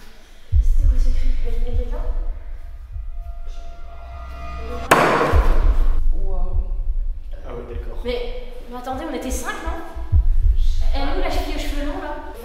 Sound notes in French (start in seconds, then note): 4.9 Coup sur la porte